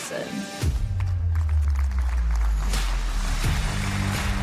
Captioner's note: applause